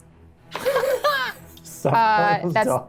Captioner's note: Brennan laughs